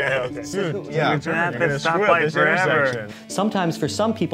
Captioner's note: laughing; chattering